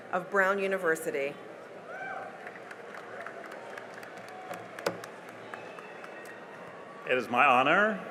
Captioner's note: cheering and applause